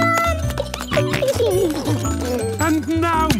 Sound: giggling, snorting

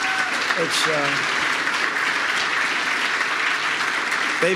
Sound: applause

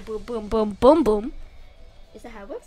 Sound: none

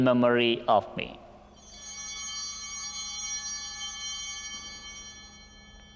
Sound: chimes ringing

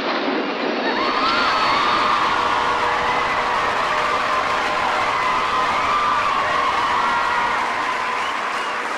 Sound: audience cheers for surprise celebrity guest

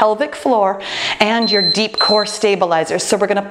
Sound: timer beeping

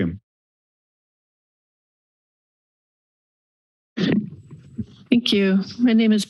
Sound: silence

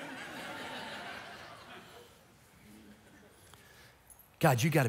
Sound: congregation laughing

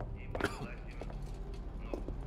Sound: coughing

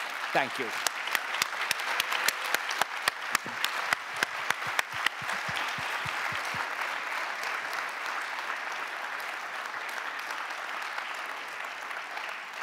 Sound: applause

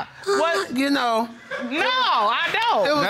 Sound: moaning

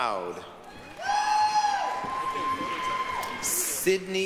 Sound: applause, cheering

